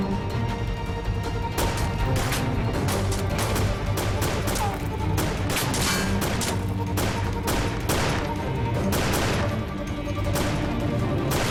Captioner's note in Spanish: Disparos